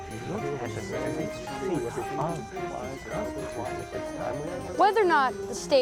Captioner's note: people murmuring